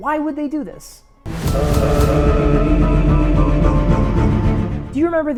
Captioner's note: Three Jared Letos tunelessly humming “Für Elise”